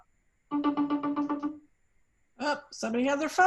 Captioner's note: phone ringing